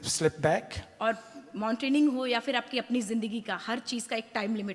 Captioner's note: speaks foreign language